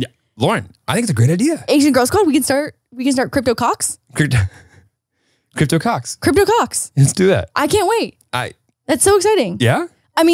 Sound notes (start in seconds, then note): 4.2 laughs